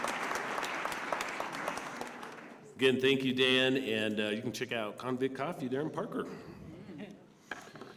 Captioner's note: applause